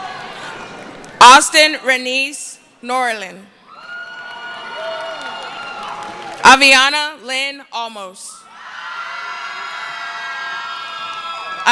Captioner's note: cheering; cheering; screaming